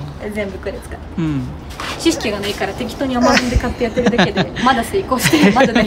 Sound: laughs

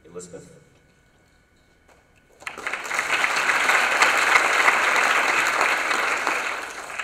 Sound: applause

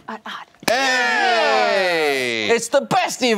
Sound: cheering

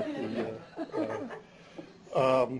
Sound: laughter

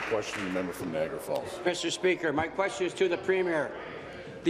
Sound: applause

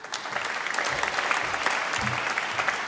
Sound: applause

